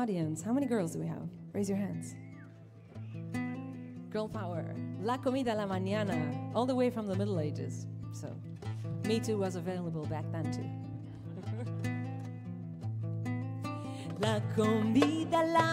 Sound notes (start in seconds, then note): 11.1 chuckles; 14.3 singing in Ladino